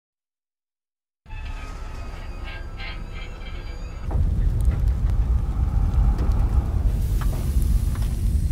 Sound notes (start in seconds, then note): 1.5 burning and whirring